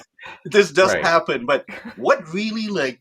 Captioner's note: laughs